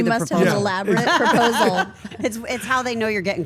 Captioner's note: laugh